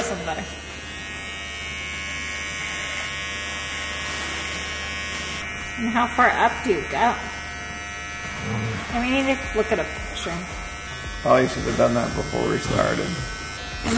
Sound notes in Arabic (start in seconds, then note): 1.1 صوت أزيز ماكينة حلاقة كهربائية